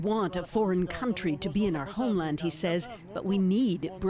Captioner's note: speaking foreign language